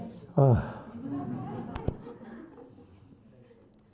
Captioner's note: sighs